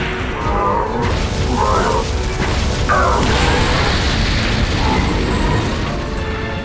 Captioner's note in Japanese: スルガトのうめき声